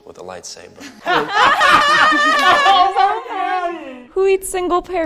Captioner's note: forced laughter